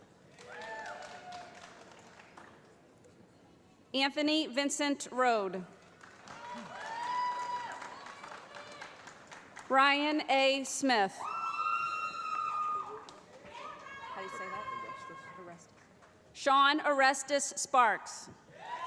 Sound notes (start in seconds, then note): 0.0 applause; 5.7 applause; 11.2 cheering